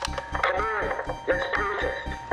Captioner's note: click